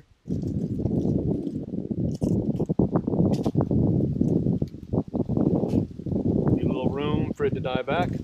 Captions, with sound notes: [wind blowing] Leave a little room for it to die back.